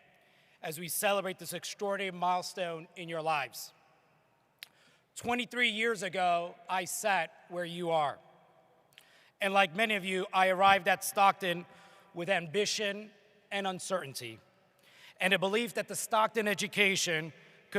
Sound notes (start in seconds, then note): none